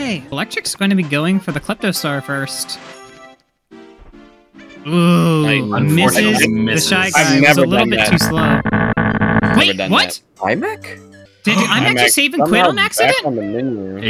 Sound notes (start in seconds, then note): 8.4 error sounds